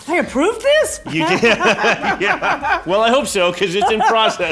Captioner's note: laughs Loudly